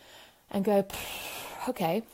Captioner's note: breathing